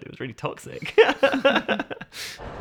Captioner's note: laughing